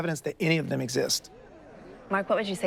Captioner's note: audience murmurs